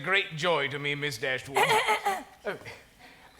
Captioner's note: Mrs. Jennings clears throat